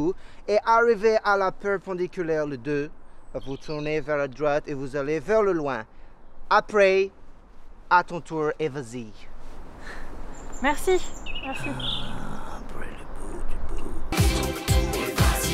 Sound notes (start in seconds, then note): 11.5 undistinct grunting